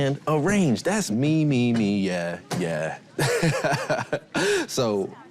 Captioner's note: laughs